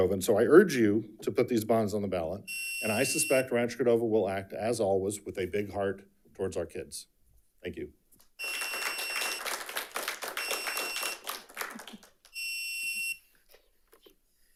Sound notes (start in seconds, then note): 8.4 audience applauding